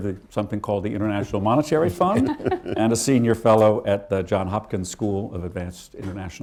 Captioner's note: laughter